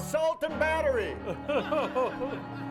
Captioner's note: group laughs